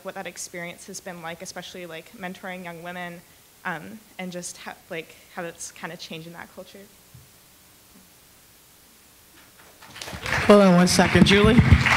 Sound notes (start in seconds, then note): 9.8 attendees applauding